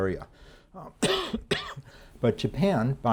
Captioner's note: lecturer coughing